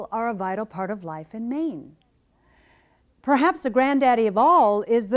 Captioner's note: none